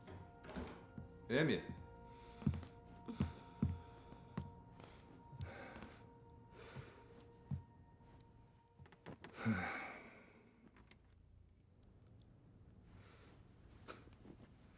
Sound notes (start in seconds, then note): 4.8 sighs